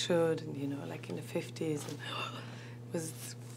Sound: sighs

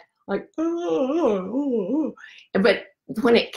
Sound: fakes yawning

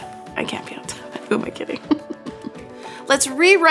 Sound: giggles

